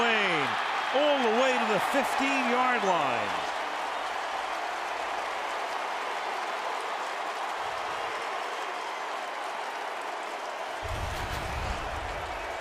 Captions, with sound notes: is Reggie Wayne all the way to the 15-yard line! [cheering]